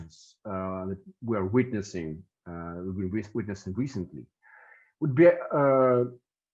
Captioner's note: stutters